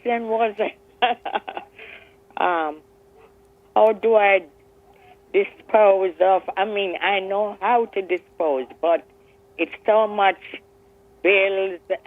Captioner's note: laughs